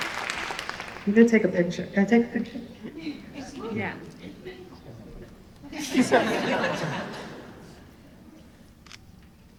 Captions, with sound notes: I'm going to take a picture. Can I take a picture? [LAUGHTER] - Yeah. [LAUGHTER]